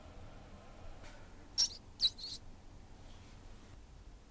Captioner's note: rat squeaks